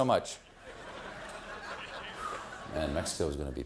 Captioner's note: laughter